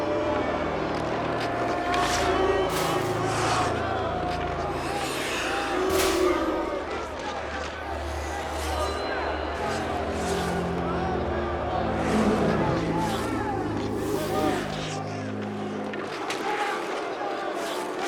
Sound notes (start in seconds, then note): 1.7 crowd booing